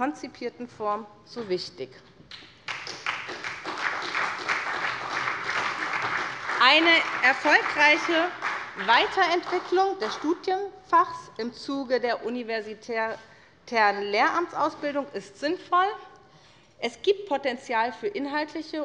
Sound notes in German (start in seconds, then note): 2.6 Beifall bei der SPD